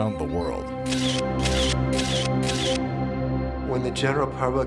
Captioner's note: camera shutter snapping